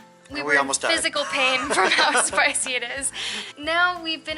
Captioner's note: laughter